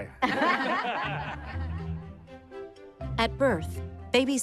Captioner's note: all laughing